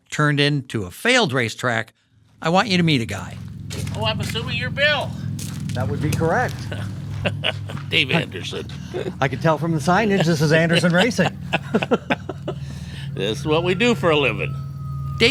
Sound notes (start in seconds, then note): 6.0 laughing